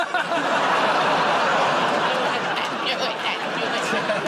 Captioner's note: laughter